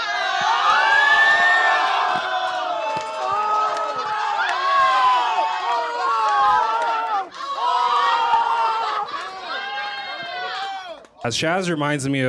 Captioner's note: shouting